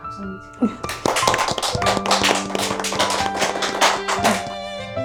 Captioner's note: applause